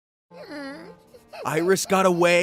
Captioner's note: whining like a puppy